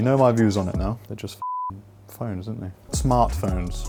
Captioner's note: beep